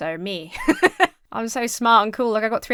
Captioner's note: laughs